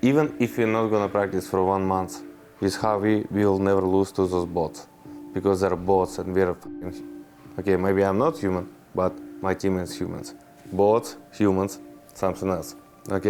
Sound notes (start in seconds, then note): none